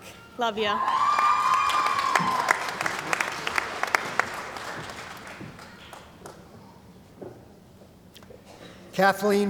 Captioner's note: cheering & Applause